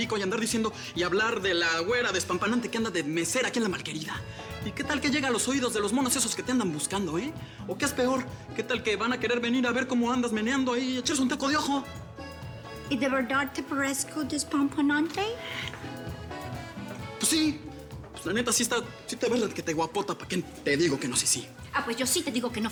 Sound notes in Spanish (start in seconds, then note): 13.3 con acento